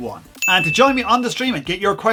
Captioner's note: bell chimes